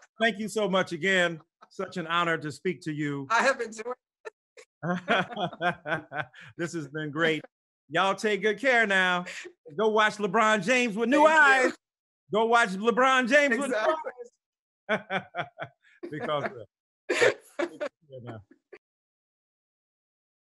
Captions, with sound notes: Thank you so much again, such an honor to speak to you. - I have been (laughs). - (laughs) This has been great. Y'all take good care now. Go watch LeBron James with new eyes. - Thank you. - Go watch LeBron James with new eyes. - Exactly (laughs). - (laughs) Because of that. All right, thanks. You can go now.